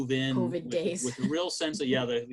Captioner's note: chuckles